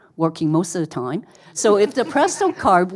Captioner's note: audience laughing